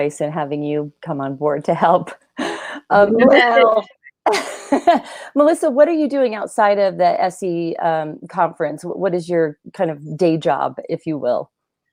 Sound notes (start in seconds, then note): 3.0 laughing